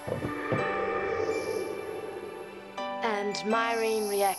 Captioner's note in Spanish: viento silbando